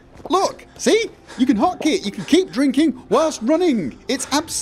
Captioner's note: constant gulping